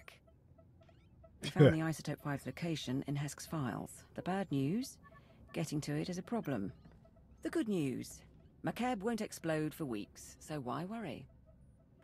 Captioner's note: laughs